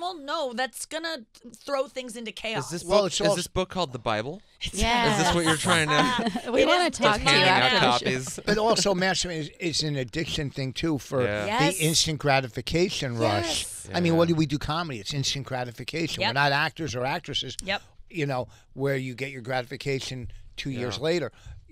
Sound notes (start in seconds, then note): 5.0 laughing